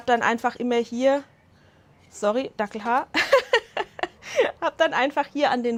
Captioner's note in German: Lachen